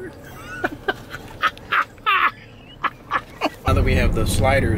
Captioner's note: laughs